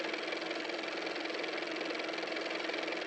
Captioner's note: car motor